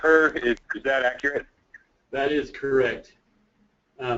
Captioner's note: voiceover